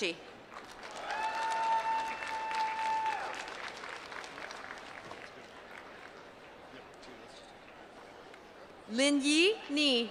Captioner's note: applause